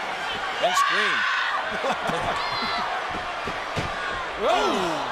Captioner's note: laughs